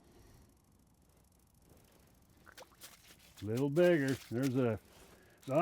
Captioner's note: fish splashing